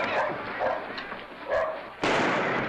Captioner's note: gunshot; dog barks; gunshot